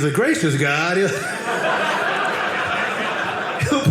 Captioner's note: audience laughing